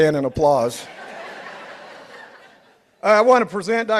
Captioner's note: participants laughing